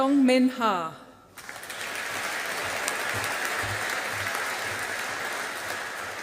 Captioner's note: audience applauding